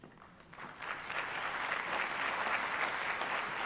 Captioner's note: applause